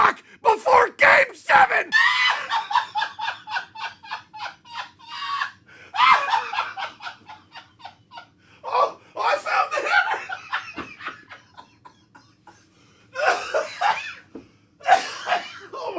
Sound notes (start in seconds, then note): 1.6 purer deranged laughter; 9.7 laughter that becomes coughing